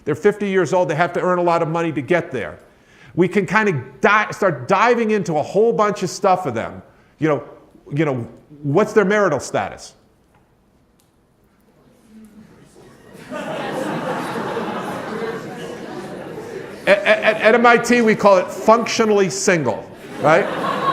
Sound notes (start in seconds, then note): 12.4 audience laughs